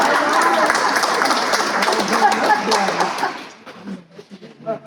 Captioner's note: laughter; applause